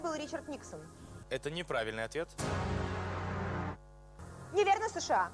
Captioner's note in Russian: звук неверного ответа из "Вопроса на засыпку"